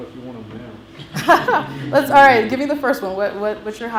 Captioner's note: laughs